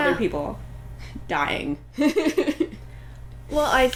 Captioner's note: laughter